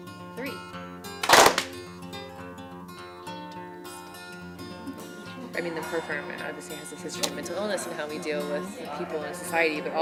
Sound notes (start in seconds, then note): 1.2 group claps; 3.4 instructor whispering